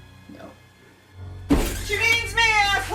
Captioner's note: door creaking